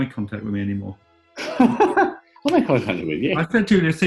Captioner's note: laughing